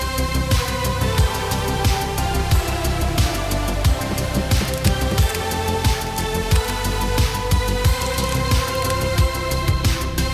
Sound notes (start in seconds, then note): 0.0 bright electronic Christmas music; 4.0 shells cracking